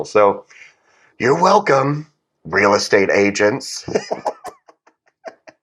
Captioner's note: laugh